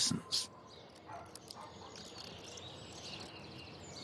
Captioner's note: bats chirping